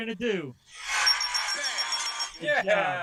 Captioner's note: cheering